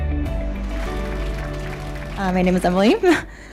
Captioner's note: applause